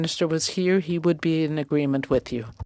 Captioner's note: speaking French